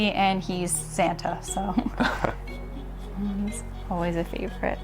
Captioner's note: Carl and Harmony laughing